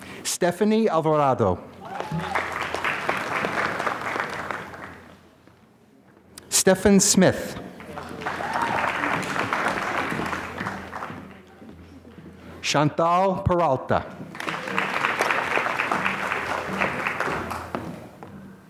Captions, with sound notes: Stephanie Alvarado. (applause) Stephan Smith. (applause) Shantal Peralta. (applause)